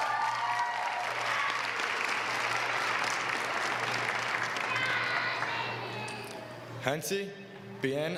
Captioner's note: applause